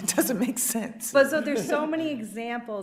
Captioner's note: chuckles; justices chuckling